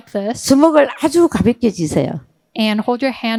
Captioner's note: speaking in foreign language